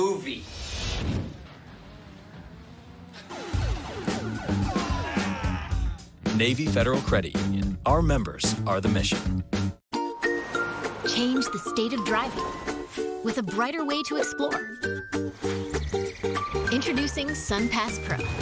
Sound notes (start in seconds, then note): 3.2 video game effects; 5.2 distant yelling